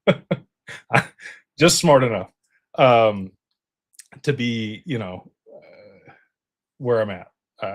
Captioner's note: laughter